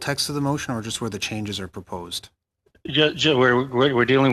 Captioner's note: speaking French